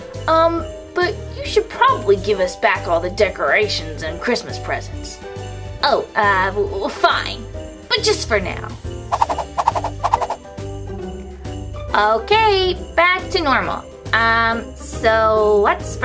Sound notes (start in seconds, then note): 9.1 whooshing; 11.4 bells jingling